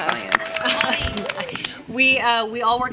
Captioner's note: applause